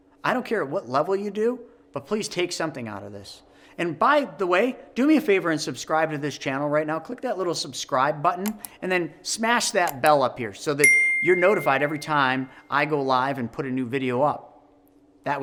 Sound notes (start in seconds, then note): 10.8 bell ringing